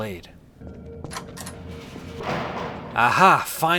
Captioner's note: alarm blaring; door opens and slams